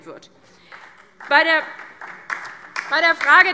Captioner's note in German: Beifall DIE LINKE und vereinzelt SPD